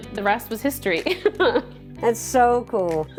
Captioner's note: chuckles